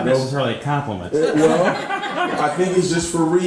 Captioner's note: all laughing